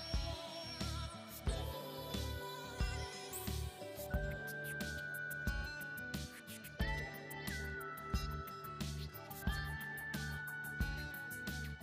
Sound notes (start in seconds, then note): none